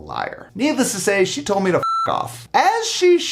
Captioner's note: beep